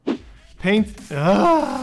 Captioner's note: groans